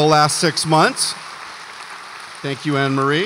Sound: audience applauds

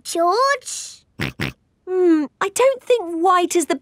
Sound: snorts

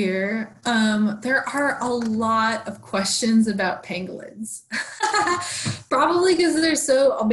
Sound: laughs

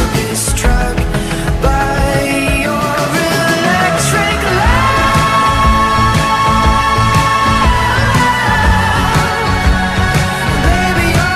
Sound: ohh

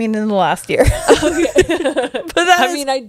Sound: panel laughing

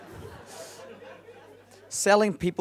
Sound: laughing

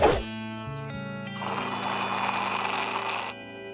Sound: slurping

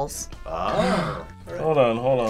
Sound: gasps

